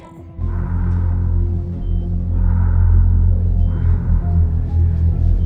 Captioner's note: breathing